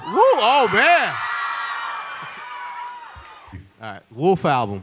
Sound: crowd screaming

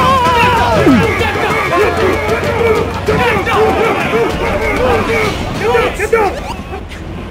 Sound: angry mob sounds

